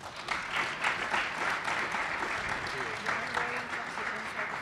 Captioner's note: group applauds